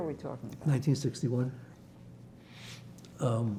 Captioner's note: wiping nose